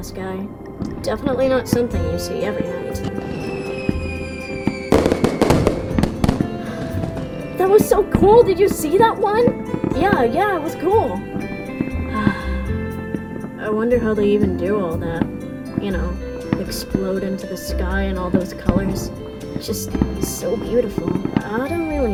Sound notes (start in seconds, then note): 6.6 gasp; 12.1 sigh